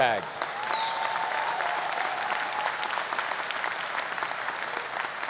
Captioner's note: audience applause